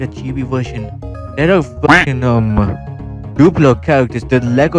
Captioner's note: quack